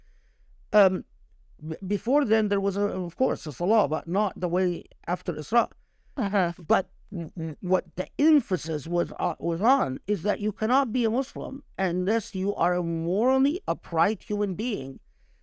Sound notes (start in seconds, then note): 5.2 speaking Arabic